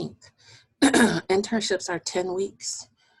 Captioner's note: clearing voice